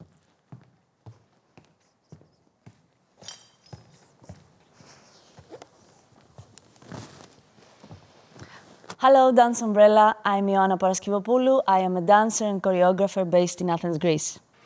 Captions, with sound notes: (glass clatter) - Hello Dance Umbrella. I'm Ioanna Paraskevopoulou. I am a dancer and choreographer based in Athens, Greece.